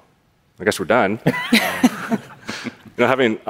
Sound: laughter

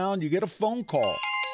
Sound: ring, ring

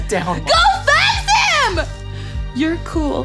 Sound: yelling

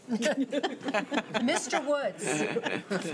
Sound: laughing

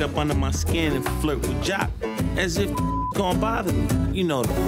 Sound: beep

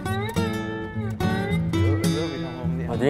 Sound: chatting

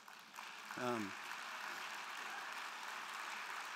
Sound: crowd clapping

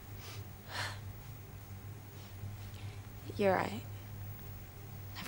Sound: sighs

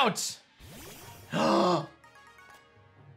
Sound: gasps

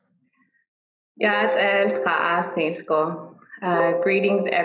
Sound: speaking dine language

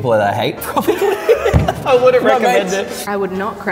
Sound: laughing

